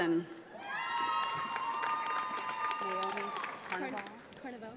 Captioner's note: audience applauds